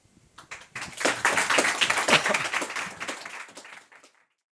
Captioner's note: participants applauding